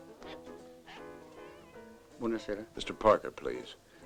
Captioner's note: non-english speech